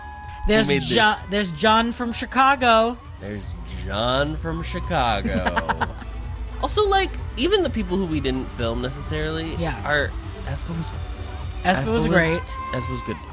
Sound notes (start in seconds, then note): 5.0 laughs